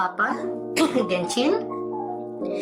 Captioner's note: cough